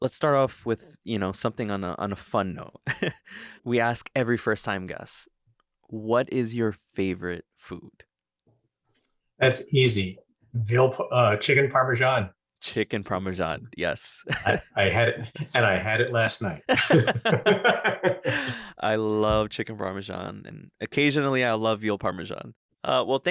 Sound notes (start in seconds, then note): 2.9 chuckles; 14.2 chuckles; 16.9 laughing